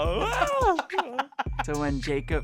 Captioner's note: laughs